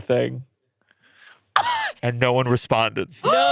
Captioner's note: exclaims